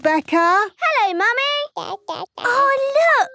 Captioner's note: babbling